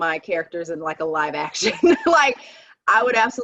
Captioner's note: laughing